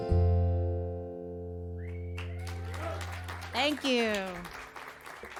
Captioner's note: cheers and applause